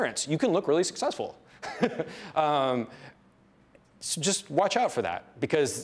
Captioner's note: laughs